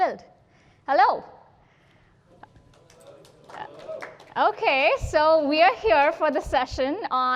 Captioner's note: applause